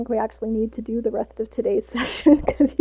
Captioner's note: laughs